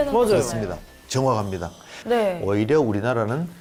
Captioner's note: voiceover